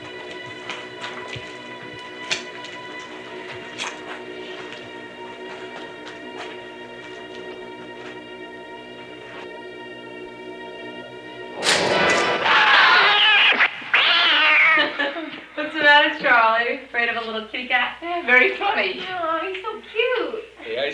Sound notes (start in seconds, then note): 0.0 footsteps on cement; 11.6 door opening; 12.3 scream; 12.3 cat screech; 15.8 laughs